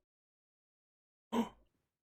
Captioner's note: Skull gasps